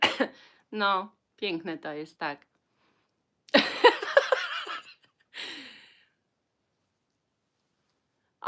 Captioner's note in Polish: śmiech